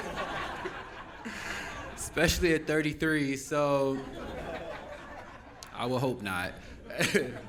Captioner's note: laughing